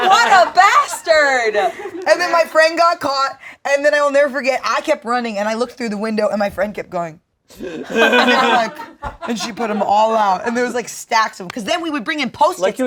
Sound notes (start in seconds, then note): 7.6 group laughing